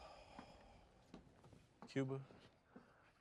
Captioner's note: sighs